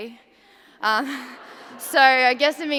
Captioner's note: laughter